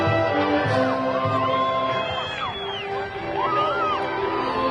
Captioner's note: graduation music continues; crowd cheering